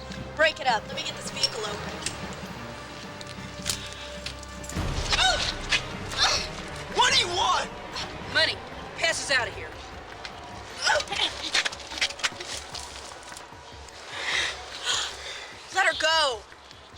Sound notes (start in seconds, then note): 5.1 woman groans; 10.8 woman groans; 15.0 Athena gasps